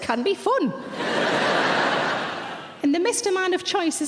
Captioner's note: audience laughing